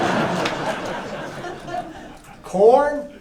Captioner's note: laughter